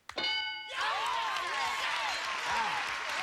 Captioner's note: cheers and applause